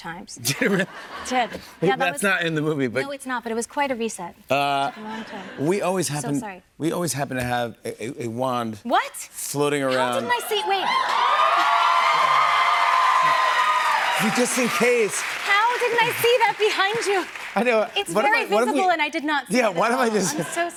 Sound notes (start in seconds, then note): 10.3 cheers and applause